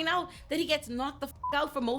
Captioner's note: beep